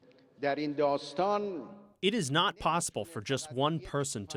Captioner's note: through translator